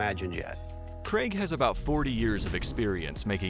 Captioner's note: voiceover